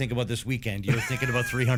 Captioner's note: laughter